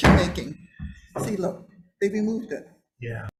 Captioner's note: gavel bangs